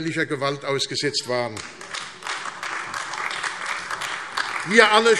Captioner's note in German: Beifall AfD